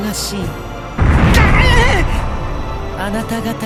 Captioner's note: wince